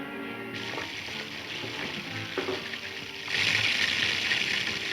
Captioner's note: bacon sizzling